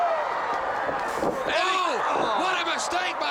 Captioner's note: crowd cheering